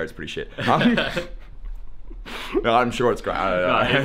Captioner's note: laughing